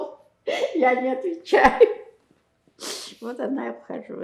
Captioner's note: laughing